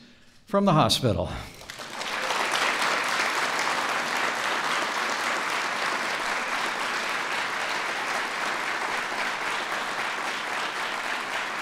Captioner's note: applause